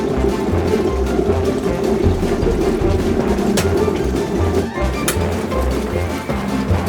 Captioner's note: boiling water sound